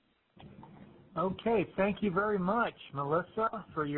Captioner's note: voiceover